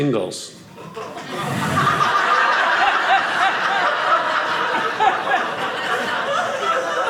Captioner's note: audience laughing